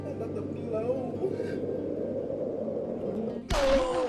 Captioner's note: groan